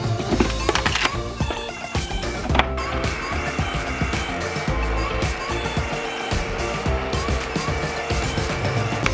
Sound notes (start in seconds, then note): 3.4 buzzing